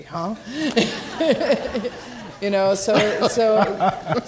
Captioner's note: laughing